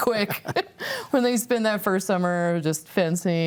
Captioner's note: laughs